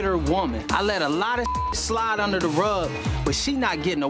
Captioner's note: beep